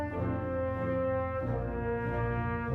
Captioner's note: none